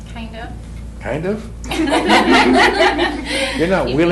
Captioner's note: laughter